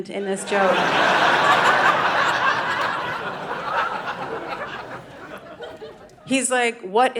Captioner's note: audience laughing